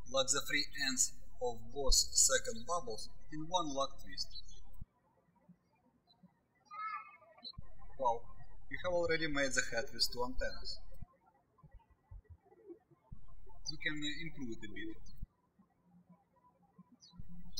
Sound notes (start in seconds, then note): 0.0 birds chirping; 6.6 birds chirping